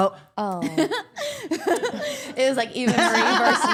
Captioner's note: Liv laughs